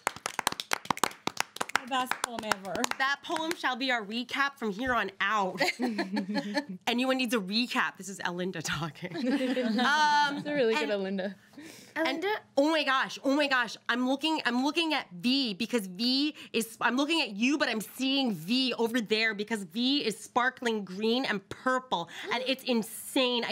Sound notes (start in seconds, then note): 0.0 audience applauds; 5.6 girl laughs; 9.2 laughs